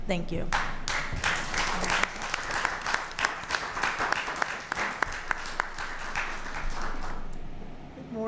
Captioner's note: applause